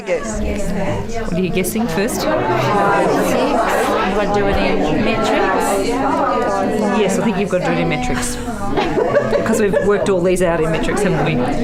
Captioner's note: audience chatter